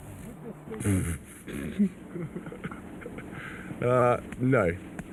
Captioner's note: William laughs